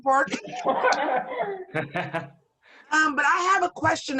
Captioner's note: laughter